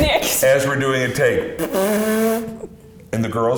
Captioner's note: blows raspberry